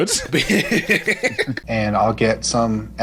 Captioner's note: laughing